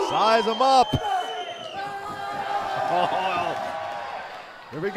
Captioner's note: crowd cheering